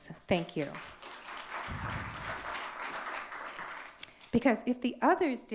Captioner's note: audience clapping